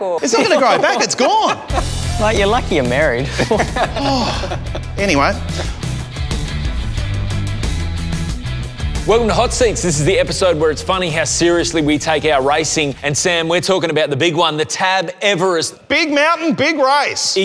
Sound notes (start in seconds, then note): 3.2 sighs